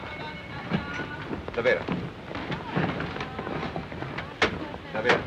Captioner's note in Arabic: هارتز يتحدث لغة أجنبية